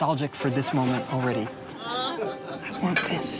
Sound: laughter

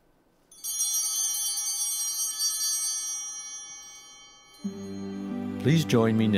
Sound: chimes ringing

